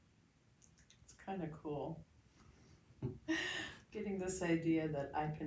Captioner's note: laughs